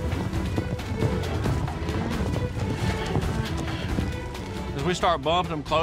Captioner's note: running hoof beats